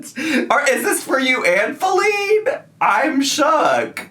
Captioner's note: laughs; laughs